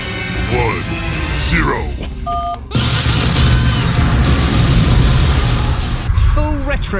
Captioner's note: loud explosion, screams